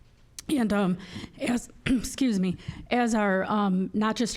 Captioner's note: clearing throat